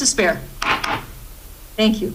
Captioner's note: gavel bangs